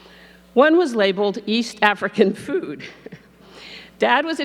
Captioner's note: laughs